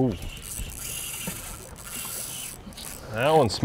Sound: reel zipping

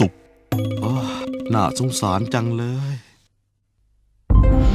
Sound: sigh

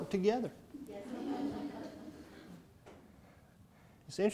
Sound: laughing

